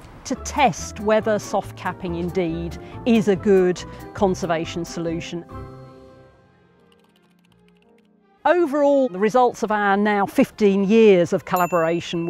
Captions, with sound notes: To test whether soft capping indeed is a good conservation solution. (keyboard noises) Overall, the results of our now 15 years of collaboration